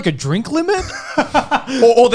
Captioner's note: laughing